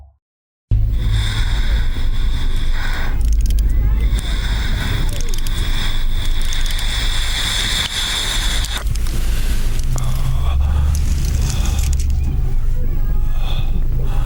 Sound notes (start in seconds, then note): 0.7 eerie breathing and ambience